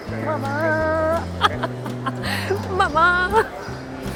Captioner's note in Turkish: kahkaha